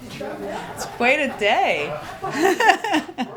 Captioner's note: laughter